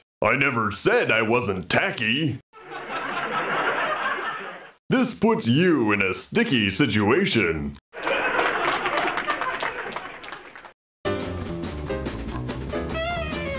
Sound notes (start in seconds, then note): 2.6 laughter and light applause; 7.9 laughter and heavier applause